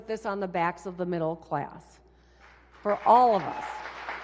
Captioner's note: applause